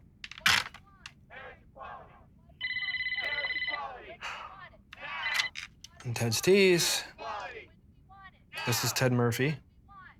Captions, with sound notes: [PHONE RINGING] TED'S T'S. THIS IS TED MURPHY.